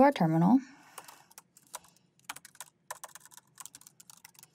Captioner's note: keyboard clanking